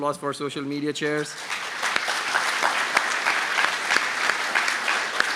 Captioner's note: applause